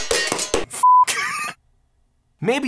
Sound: hammer clanging; beep

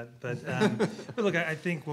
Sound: laughs

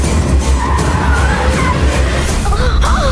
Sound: brakes squeak

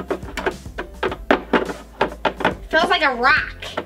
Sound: Gertie rustling the poops

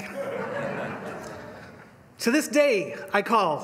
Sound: laughter

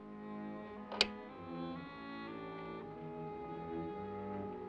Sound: ominous music; lock clicks; ominous music

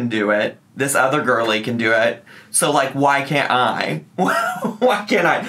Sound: laughs

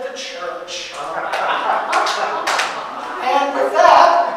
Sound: audience applauding and laughing

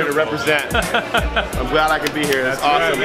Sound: laughing

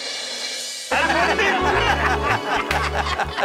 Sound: laughing

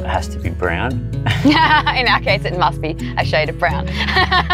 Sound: laughing

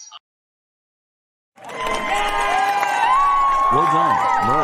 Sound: all cheering

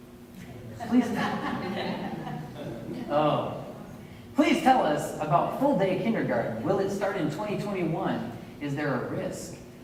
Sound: laughter

